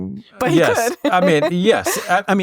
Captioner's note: laughs